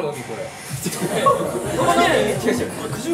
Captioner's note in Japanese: 笑い